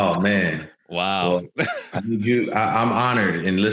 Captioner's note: chuckles